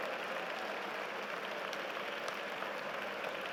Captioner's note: applause